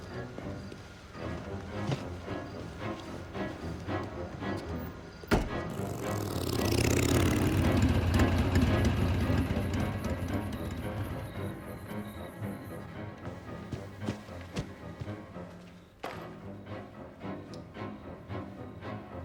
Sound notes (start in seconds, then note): 5.2 motorbike rumbles; 5.3 boot thuds